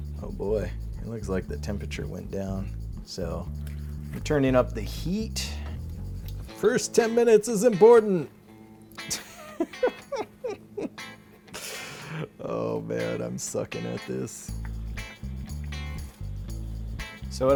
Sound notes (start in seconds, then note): 9.0 man laughing; 14.9 upbeat music